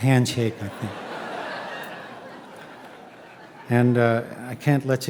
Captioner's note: audience laughing